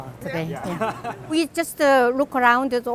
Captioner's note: laughter